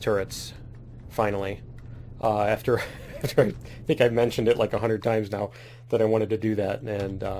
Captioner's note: laughs